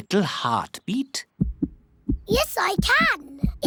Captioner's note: heart thumps